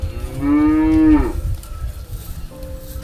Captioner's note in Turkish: İnek Sesi